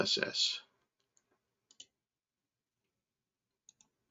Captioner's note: mouse clicking